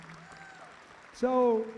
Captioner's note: audience applauds